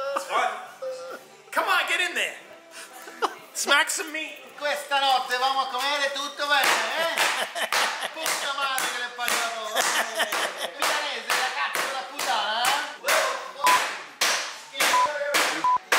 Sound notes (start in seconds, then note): 0.0 laughing; 4.8 speaking foreign language; 6.8 laughing; 7.1 slapping; 8.4 speaking foreign language; 14.9 beeping